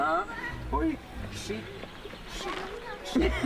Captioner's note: woman laughs